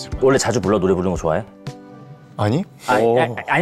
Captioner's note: wary